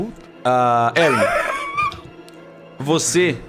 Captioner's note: laughs